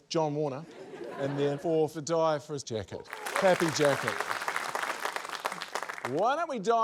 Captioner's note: applause